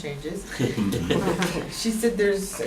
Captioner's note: laughter